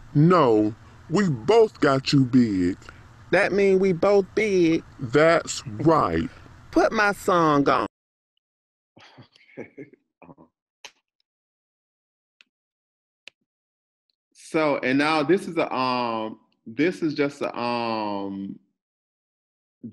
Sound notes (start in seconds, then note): 9.5 laughs